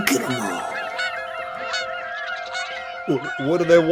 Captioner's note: birds chirping